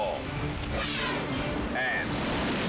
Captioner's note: air whooshes